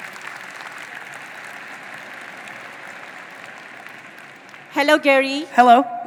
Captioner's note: audience applauding